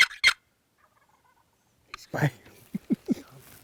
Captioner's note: turkey calling; turkey gobbling